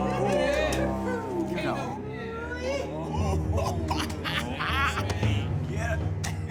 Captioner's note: subtle cheers; cackling